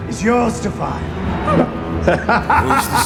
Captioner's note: laughs